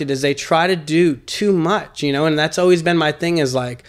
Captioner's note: none